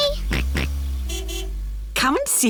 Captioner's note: car horn honks; george oinks